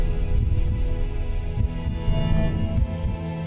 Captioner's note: heartbeat